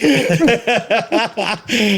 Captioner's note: laughing